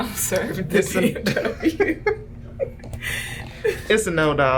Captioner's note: both laugh